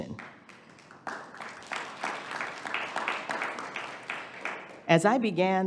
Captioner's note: audience applauding